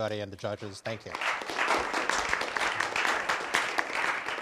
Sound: applause

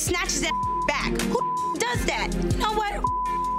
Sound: beep

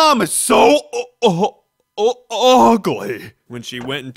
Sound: gags

